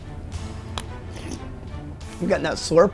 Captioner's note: slurping